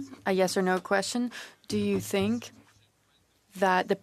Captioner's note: speaking French